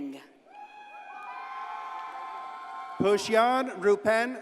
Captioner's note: audience cheers and applauds